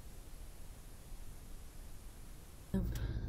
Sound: static

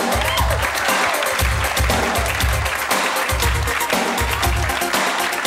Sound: audience clapping and cheering; upbeat music

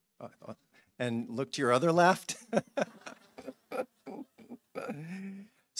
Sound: laughing

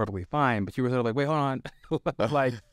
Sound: laughs

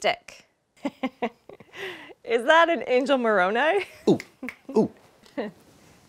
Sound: laughs

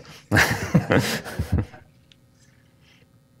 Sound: laughs

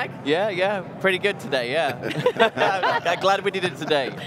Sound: laughing loudly

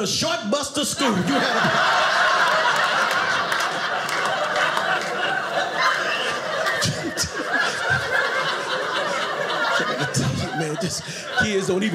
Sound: audience laughing

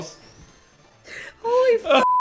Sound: laughing

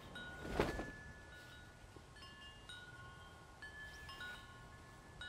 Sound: wind chimes ringing

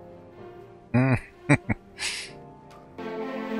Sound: chuckling

